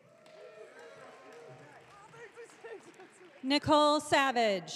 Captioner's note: audience cheering